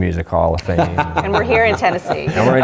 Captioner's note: laughs